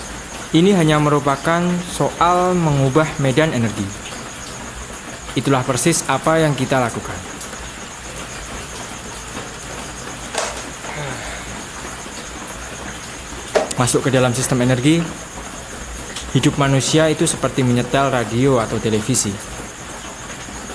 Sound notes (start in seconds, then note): 10.8 heavy Breathing